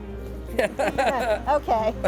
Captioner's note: man laughing